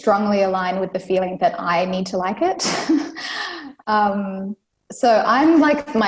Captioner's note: laughs